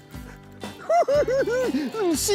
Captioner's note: laughs